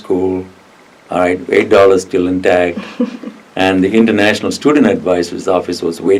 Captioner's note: laughs